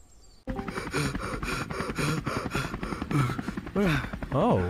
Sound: deep Inhale and Exhale Intensifies

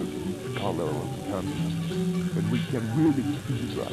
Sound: machine whirs

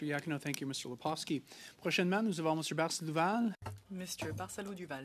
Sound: speaking French

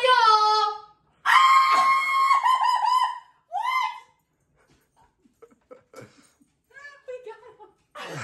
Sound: screaming

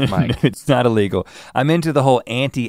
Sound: chuckles

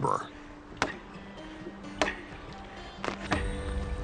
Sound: hammer landing

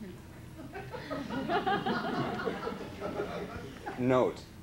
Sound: laughter

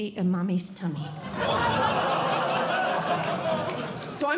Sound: audience Laughing

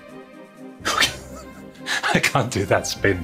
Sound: chuckles

